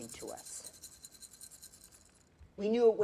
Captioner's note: rattling